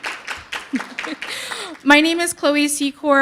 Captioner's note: audience applauding; chuckling